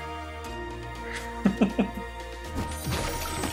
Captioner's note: laughs